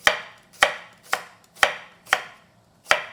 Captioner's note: chopping